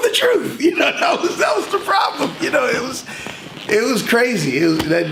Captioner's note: laughs